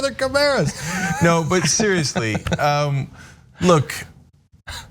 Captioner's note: laugh